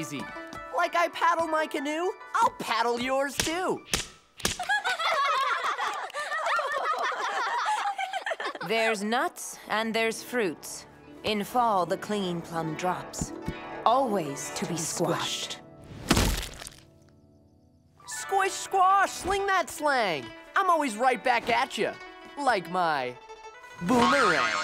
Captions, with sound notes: Like I paddle my canoe. I'll paddle yours, too. [laughing] There's nuts and there's fruits. In Fall the clinging plum drops. Always to be squashed. Squish, squash, sling that slang. I'm always right back at ya, like my... boomerang.